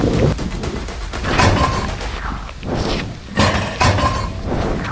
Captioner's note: metal Clanging